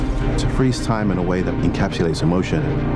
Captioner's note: male Voice